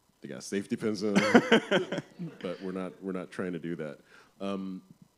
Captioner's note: laughs